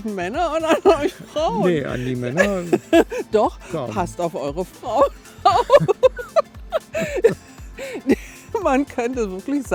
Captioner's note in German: gelächter